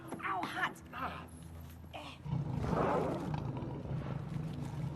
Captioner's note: growling